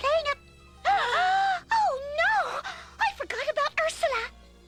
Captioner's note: gasp